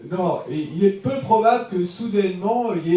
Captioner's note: audience member speaks in French